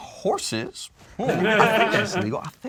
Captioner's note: group laughs